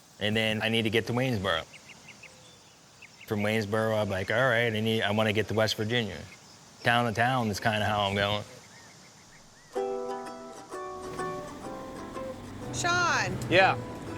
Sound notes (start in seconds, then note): 1.9 birds chirping; 8.5 birds chirping; 9.7 acoustic music